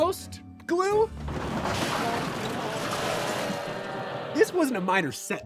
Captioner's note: vehicle clattering; crowd booing